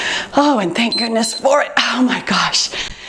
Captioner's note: timer beeps